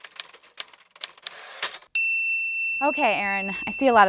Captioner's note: typewriters keys clacking; bell